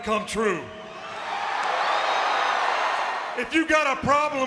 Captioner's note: crowd cheering